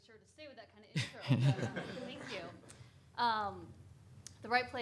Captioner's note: audience laughing